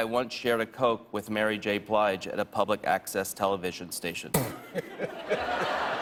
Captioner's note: laughter